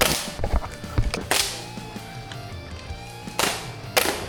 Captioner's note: airguns firing